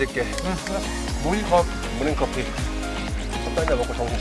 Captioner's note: eating